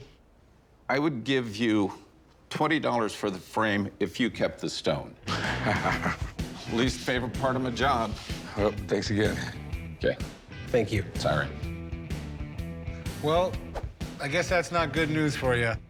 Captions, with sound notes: - I would give you $20 for the frame if you kept the stone. - [laughs] - Least favorite part of my job. - Thanks again. - Okay. - Thank you. - Sorry. - Well, I guess that's not good news for yo.